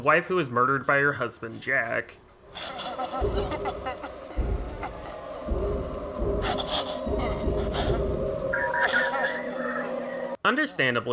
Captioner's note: sounds of Lisa laughing